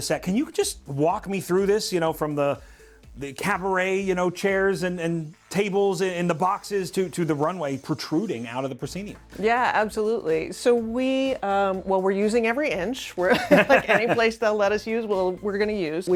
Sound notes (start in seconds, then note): 13.2 laughter